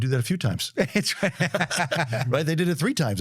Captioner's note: laughs